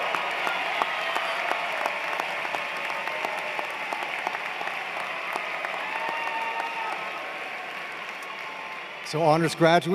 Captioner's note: cheers and Applause